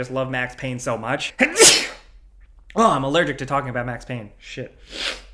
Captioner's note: sneezes